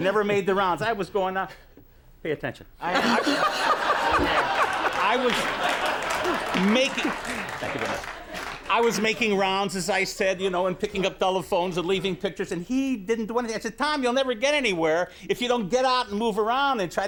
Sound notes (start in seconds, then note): 3.0 audience applauds